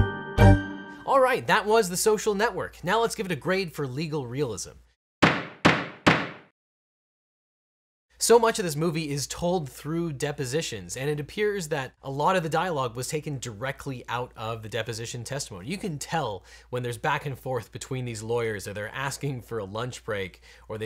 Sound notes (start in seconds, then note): 5.2 gavel banging